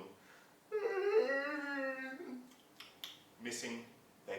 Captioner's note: sound of yawning